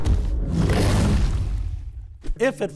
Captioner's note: footsteps thumping; dinosaur roars